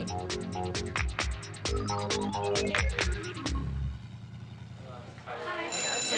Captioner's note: engine revving; bell ringing; crowd chattering